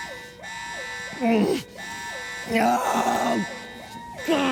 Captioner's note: groans then screams; continues groaning